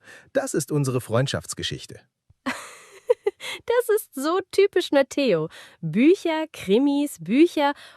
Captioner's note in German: gelächter